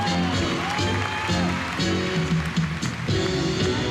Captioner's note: cheering